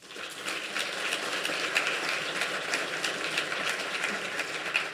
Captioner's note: applause